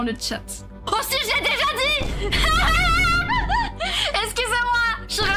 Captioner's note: laugh